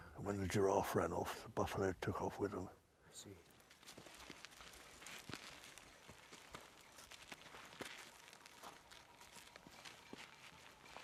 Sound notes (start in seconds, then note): 5.6 grass crunching